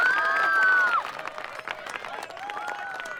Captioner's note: screaming